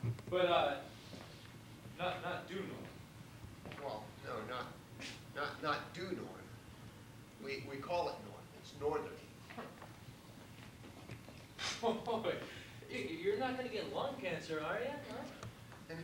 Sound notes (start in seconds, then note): 11.9 laughs